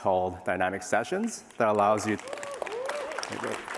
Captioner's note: applause